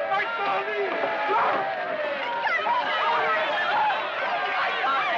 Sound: people cheering

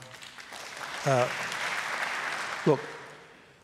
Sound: applause

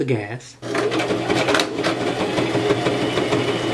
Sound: sewing machine

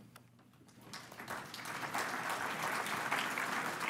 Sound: applause

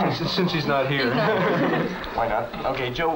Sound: laughing

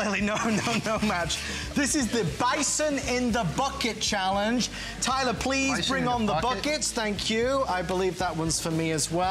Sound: laughter

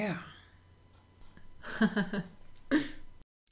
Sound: laughs gracefully

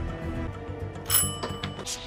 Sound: ring

